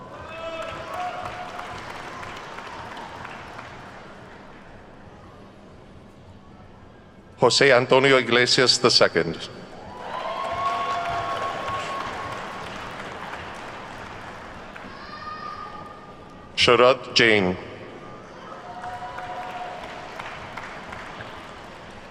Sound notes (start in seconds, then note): 0.0 attendees clapping; 9.7 attendees whooping and clapping; 18.5 attendees clapping